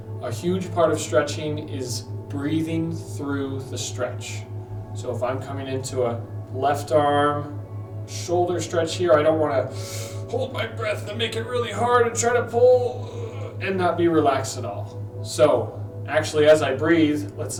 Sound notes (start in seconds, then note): 9.7 inhales